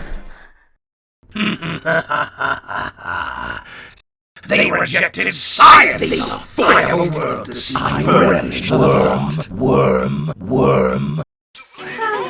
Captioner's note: laughing